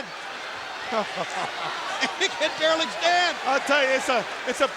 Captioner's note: chuckles